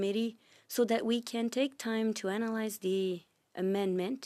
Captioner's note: speaking French